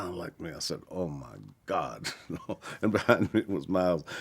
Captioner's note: chuckles